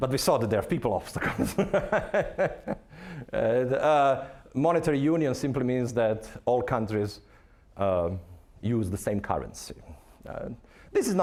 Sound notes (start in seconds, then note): 1.3 laughing